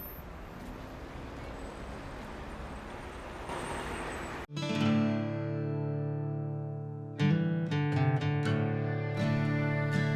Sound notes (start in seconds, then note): 2.3 car engines revving; 4.9 gentle upbeat music